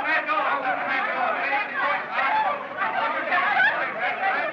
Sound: excited Chatter

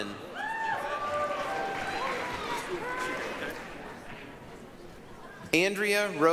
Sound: applause, cheering

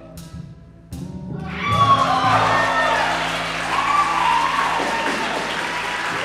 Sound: applause

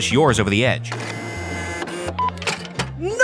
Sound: machine whirring; button beeping

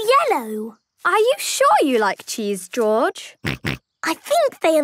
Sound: snorting

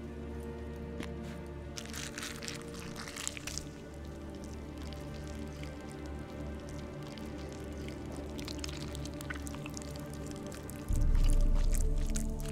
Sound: wet, squishing sounds

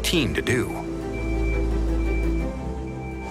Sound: beeping

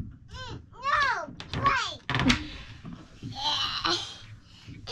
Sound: shouting

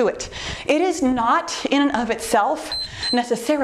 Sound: timer beeps

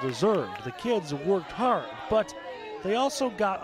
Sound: cheering and applause

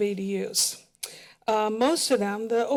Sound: smacks lips

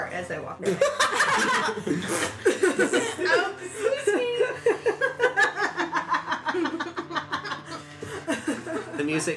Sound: ZYZZIX and LILIANA laugh

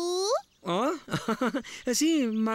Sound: chuckling

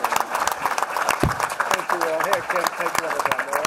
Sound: applause

